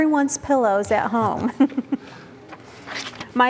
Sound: giggling

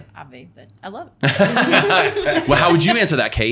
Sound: everyone laughing

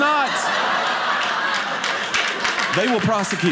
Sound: audience laughing

